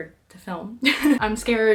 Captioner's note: laughs at self